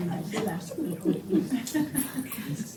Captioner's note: laughs